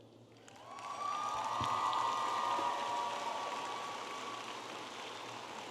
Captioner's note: audience applauding and cheering